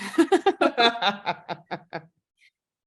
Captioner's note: laughter